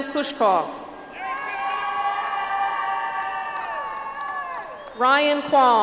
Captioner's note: audience applauds